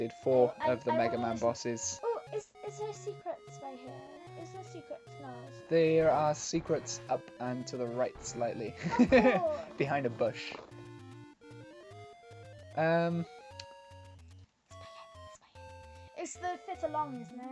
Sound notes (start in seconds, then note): 8.8 laughs